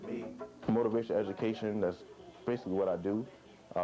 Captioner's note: voice-over